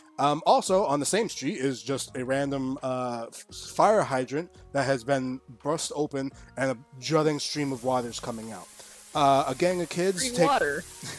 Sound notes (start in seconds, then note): 7.3 high pressure water sound effect